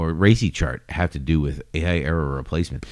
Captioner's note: uh